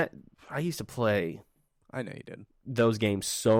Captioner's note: silence